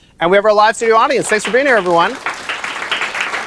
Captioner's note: applause